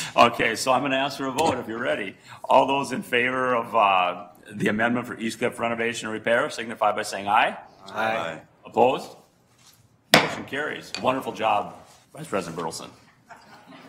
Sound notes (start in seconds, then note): 7.8 multiple voices; 10.1 gavel bangs; 13.3 audience laughter